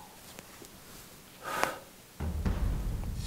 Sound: deep breath

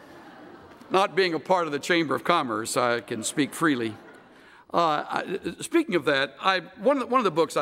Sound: laughter

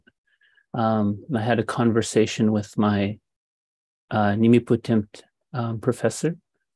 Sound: speaking indigenous language

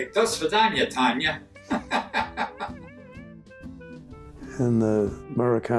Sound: laughs

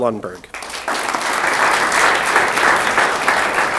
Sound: applause

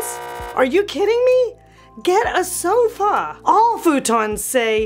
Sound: buzz beeping

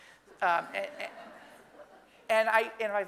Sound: audience laughing

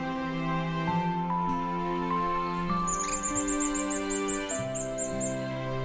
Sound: Loten's sunbird call; purple-rumped sunbird call

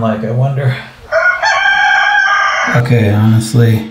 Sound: rooster crowing

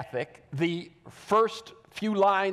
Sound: none

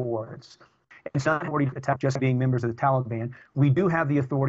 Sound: audio corruption

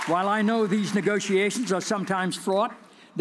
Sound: cheers and applause

